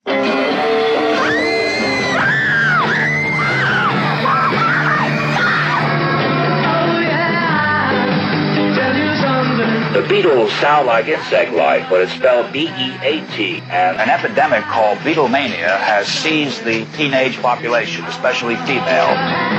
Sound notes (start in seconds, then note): 1.1 upbeat music; 3.1 women screaming